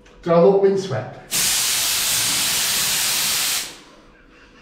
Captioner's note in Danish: kompressorluftstøj